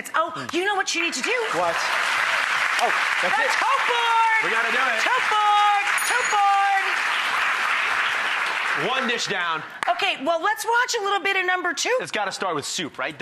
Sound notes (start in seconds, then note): 2.6 applause; 5.8 bell; 8.4 applause